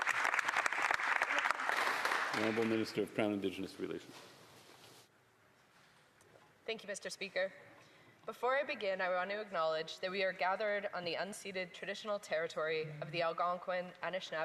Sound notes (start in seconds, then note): 2.6 applause